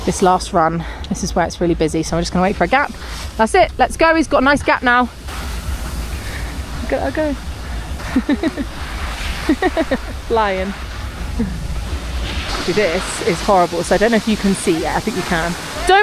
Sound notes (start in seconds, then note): 7.9 chuckles